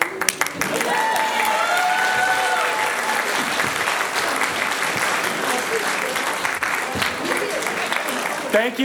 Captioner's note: applause